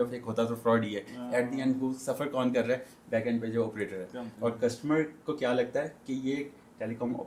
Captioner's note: none